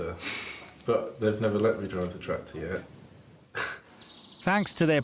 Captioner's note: chuckles